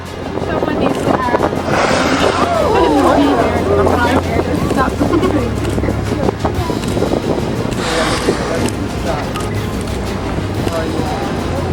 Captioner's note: guide Talking, Whale Blow, Excitement Of Passengers And Camera Clicks